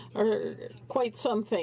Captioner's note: speaking French